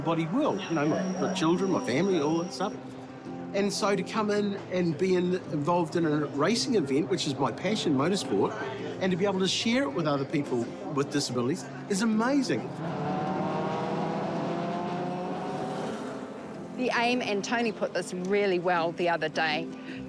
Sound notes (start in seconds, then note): 12.7 engine speed increases